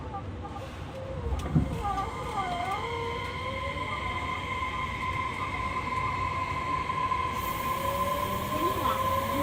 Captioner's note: sound of train accelerating